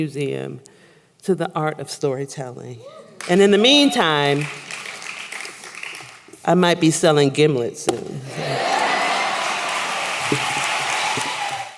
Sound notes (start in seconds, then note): 8.4 applause